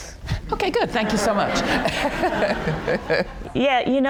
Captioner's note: audience laughing